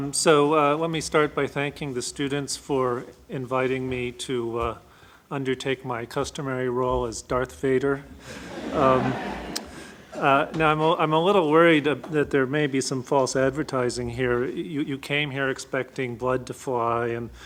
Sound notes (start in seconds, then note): 8.2 audience laughs